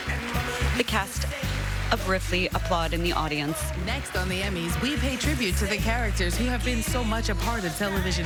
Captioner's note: applause